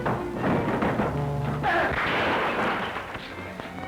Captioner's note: gunshot